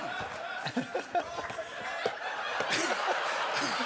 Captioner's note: laughing